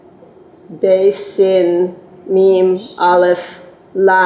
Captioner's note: non-english